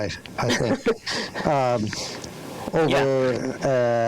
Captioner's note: laughing